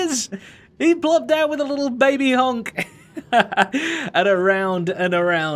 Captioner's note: chuckles